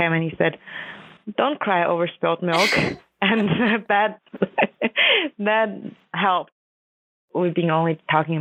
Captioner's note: laughs